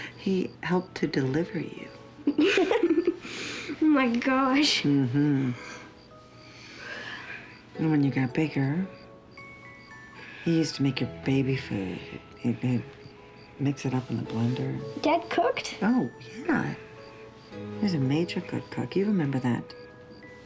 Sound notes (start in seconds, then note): 2.2 giggles; 5.5 yawns